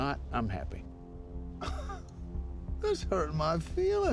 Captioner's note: laughs; scottish accent